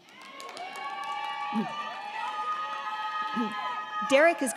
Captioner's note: crowd cheering; crowd clapping